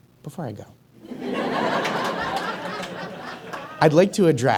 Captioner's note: audience chuckles